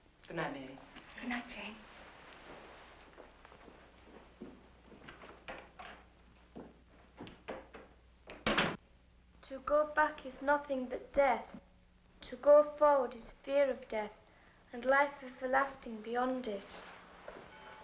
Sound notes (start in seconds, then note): 5.4 door opens; 8.4 door closes